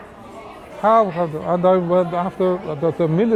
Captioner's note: none